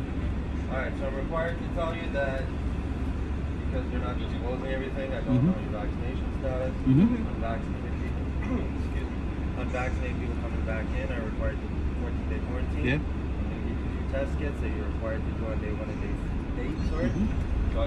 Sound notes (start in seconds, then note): 6.8 chokes